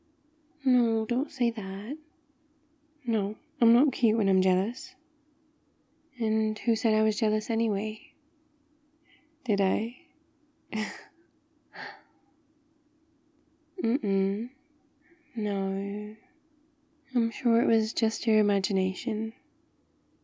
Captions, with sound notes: no, don't say that no, I'm not cute when I'm jealous and who said I was jealous anyway? did I? *laughs* uh-uh, no... I'm sure it was just your imagination